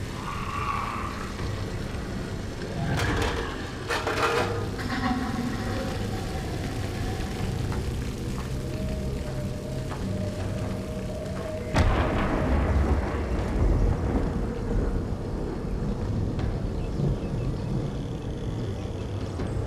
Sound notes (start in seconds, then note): 1.1 clanging; 10.5 thunder claps; 17.5 wind howling